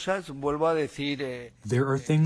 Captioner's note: through translator